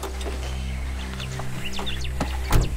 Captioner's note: Whispers